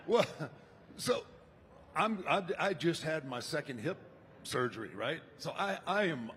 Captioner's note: laughs